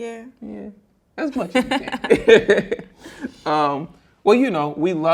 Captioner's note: both laughing